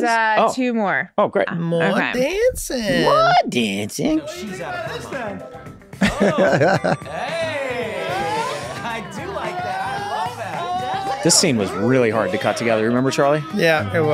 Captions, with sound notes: - There's two more. - Oh great. - More dancing. - More dancing? - She's out. (Rob laughs) - Hey! I do like that. I love that. - This scene was really hard to cut together. Remember Charlie? - Yeah, it was.